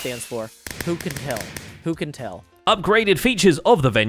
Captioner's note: fireworks explode